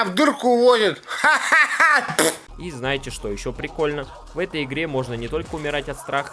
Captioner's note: laughter